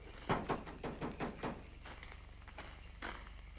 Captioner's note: knocks